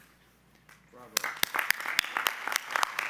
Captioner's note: applause